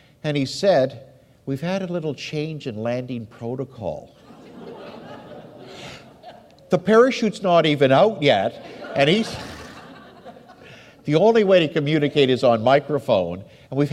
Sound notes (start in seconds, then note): 4.2 audience laughs; 7.9 audience laughs; 8.6 laughs